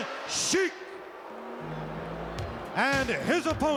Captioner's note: crowd boos